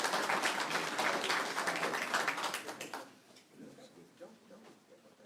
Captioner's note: applause